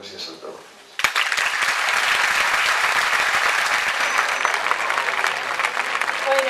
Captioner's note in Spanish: aplausos